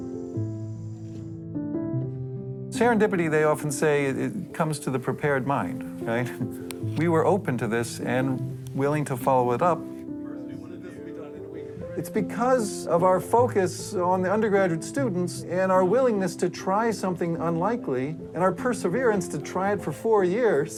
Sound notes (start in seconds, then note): 0.1 gentle music; 10.1 student speaking faintly